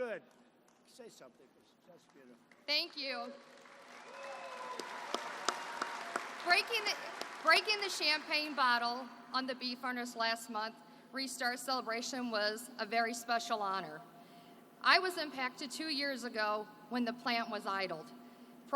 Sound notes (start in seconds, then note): 4.0 applause